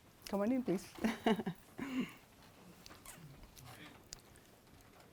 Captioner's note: laughs softly